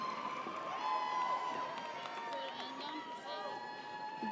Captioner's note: audience cheers